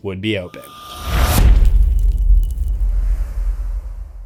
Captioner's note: impact